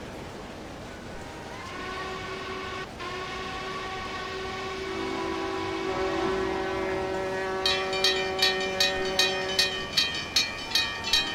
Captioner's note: multiple train horns, railroad crossing ringing